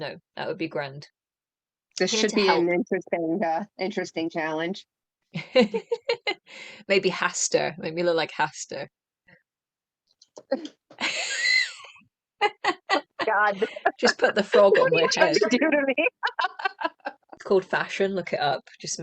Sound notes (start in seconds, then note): 5.3 laughter; 10.5 laughter